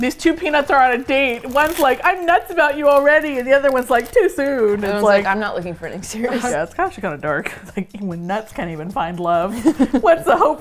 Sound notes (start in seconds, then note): 6.1 laughs; 9.4 laughs